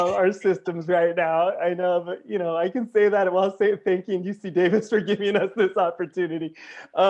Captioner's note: laughter